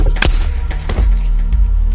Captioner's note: gunshot